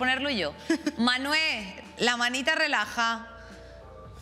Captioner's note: laughs